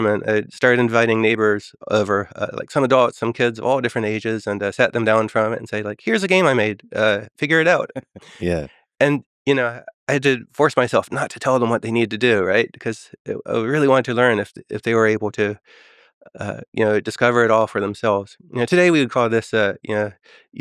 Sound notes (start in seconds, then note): 7.8 Lex laughing